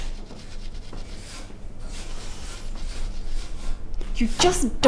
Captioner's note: scrubbing the gas hob